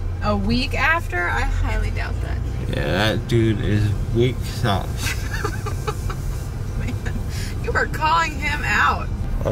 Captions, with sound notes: A week after? I highly doubt that. Yeah, that dude is weak sauce. (laughing) oh man You are calling him out.